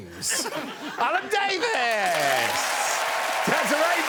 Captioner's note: audience applauding